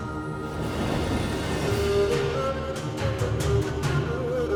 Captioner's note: wooshing